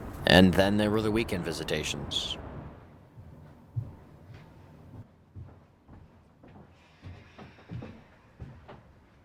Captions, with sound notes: And then there were the weekend visitations. (feet pattering)